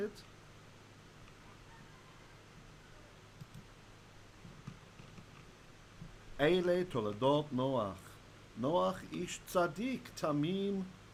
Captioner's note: Hebrew